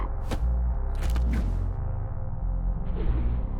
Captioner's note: thumping